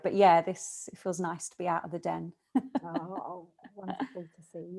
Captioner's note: laughs